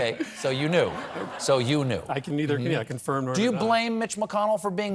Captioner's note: laughter